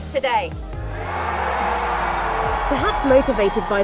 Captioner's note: crowd Cheering